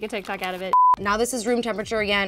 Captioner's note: beep